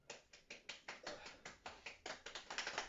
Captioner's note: applauds for himself, but only a little